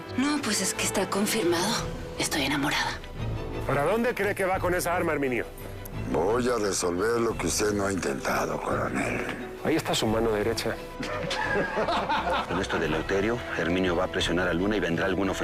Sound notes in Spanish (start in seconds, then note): 11.0 Risas